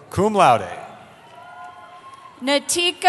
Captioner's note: cheering